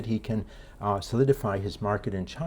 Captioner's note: none